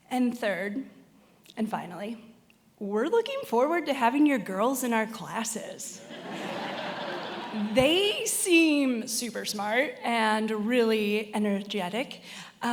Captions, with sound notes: And third, and finally, we're looking forward to having your girls in our classes. (attendees laughing) They seem super smart and really energetic,